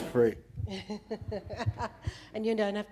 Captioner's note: laughing